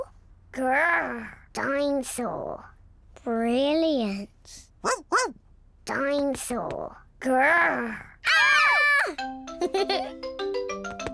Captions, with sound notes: Grr! Dinosaur. Brilliant! (BARKS) Dinosaur. Grr! -(ALL SCREAM) -(CHUCKLES)